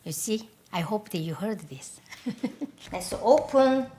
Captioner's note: laughs